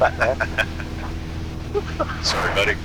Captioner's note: laughing